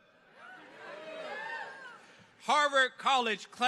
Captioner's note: audience cheering